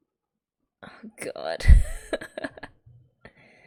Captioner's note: laughs